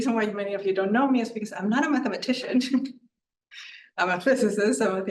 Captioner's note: chuckles